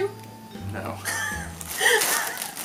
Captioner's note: chuckles